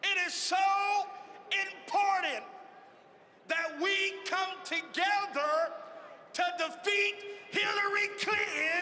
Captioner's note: cheering and applause